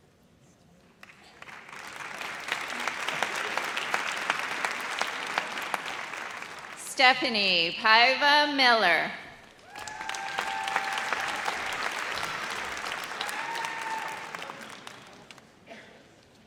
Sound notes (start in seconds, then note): 1.0 audience applauds; 9.6 audience cheers